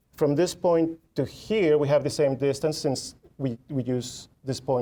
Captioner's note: none